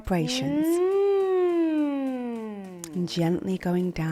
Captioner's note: humming continues